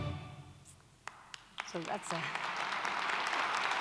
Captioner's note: clapping